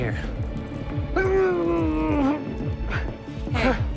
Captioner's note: groaning